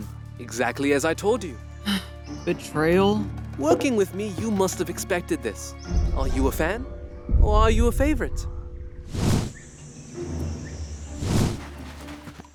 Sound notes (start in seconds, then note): 1.8 sighs